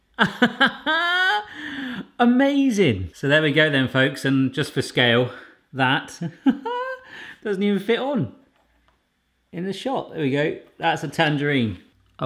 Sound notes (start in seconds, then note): 0.2 laughs; 6.2 laughs